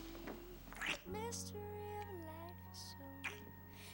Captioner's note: kissing